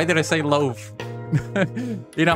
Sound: chuckles

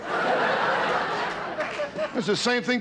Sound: audience laughter

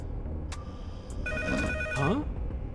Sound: ringing telephone

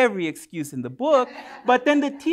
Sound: laughter

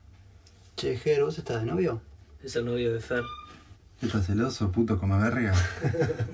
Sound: men speaking in foreign language

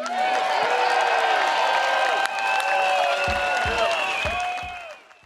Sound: in spanish; audience cheering

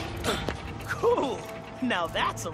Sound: grunts

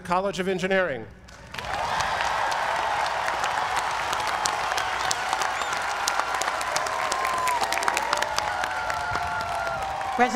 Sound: applause

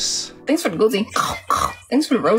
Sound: chomps

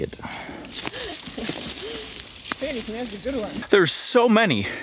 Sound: foliage crunching

